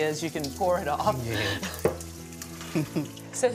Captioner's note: chuckles